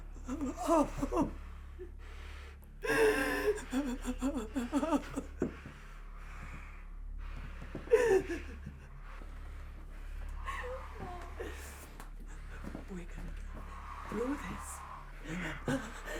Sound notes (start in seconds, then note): 0.3 Sue whimpers; 2.8 Sue sobbing; 15.2 whimpers